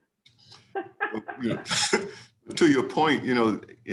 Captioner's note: laughing